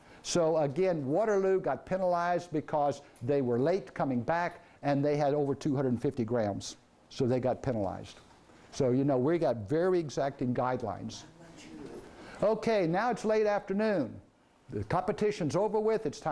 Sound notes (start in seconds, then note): none